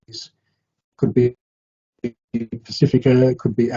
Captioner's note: audio distorting